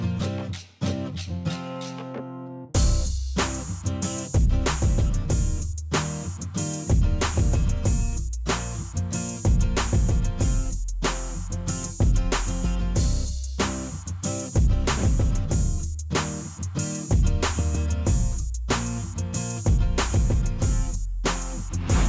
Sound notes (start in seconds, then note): 14.9 whoosh